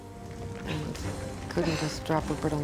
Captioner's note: fire crackling